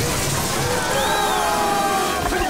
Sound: screaming

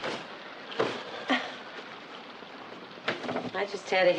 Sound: rain patters

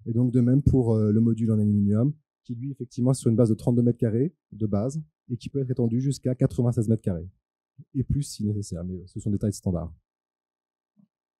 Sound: translating into french

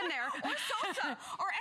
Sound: laughter

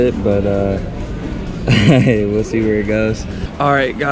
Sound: laugh

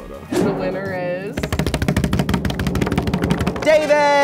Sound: drums on table

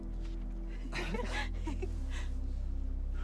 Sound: laughing

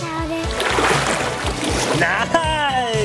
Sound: water splashing

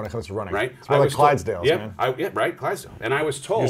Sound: murmurs

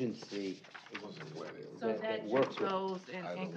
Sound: overlapping chatter

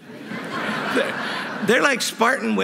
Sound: laughter

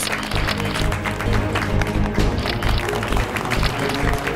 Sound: clapping; clicking

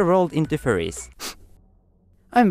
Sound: sniff

